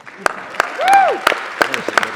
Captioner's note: applause